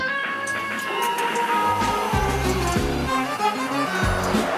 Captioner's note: wolf howling in distance; wind whooshing